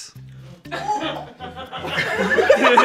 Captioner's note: everyone laughs